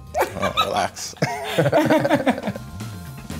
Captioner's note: chuckles